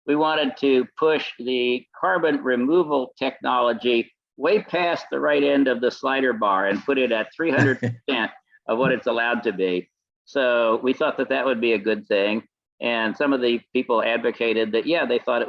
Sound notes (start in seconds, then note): 9.9 laughs